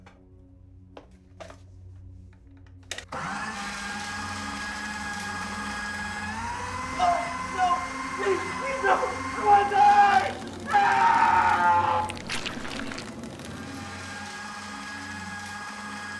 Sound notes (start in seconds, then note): 3.1 shredder whirring; 12.6 shredder whirring